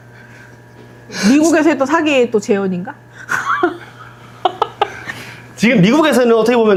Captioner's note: laughs